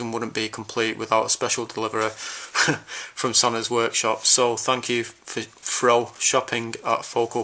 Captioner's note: laughs